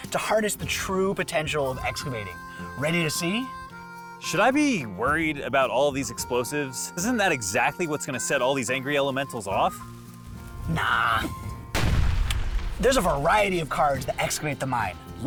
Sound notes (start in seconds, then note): 11.7 explosion